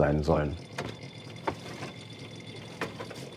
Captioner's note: high bubbling